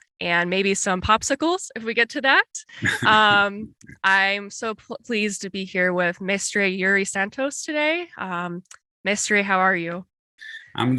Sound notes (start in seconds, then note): 2.8 laughs